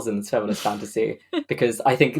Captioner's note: laughs